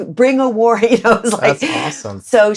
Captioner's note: laughter